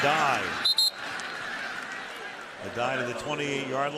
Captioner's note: whistle